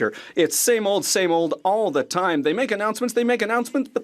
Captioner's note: speaking French